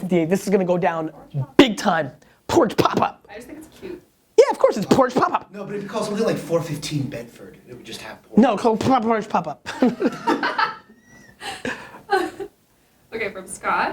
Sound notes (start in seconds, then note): 9.6 laughter